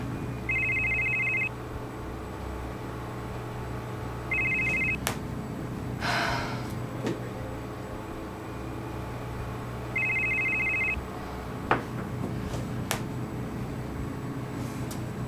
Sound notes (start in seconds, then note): 0.2 phone rings; 4.2 phone rings; 5.9 sighs; 9.8 phone rings